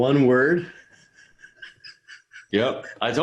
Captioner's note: laughs